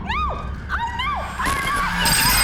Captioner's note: high squealing